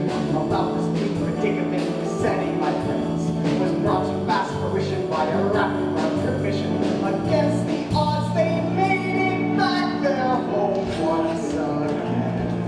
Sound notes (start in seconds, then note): 8.1 shouted